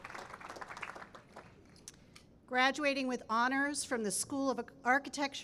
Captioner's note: cheering and applause